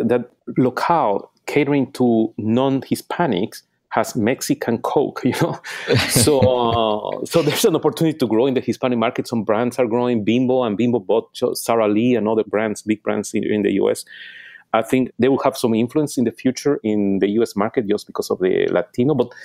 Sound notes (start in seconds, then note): 5.3 laughing